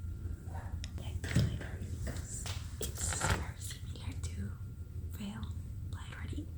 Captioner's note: whispers